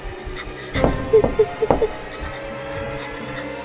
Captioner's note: panting sounds